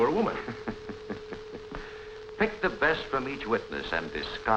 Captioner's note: laughs